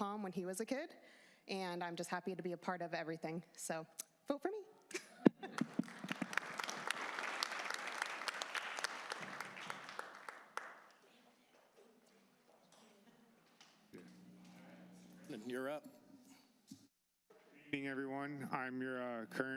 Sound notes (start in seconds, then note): 7.4 cheers and applause